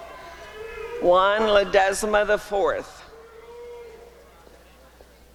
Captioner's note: applause and cheering